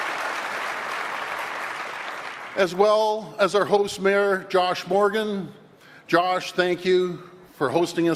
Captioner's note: applause